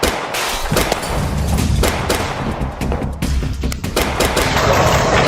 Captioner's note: gunshots